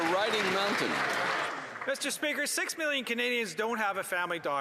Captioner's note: applause